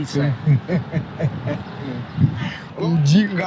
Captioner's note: laughing